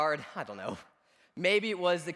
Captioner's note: laughs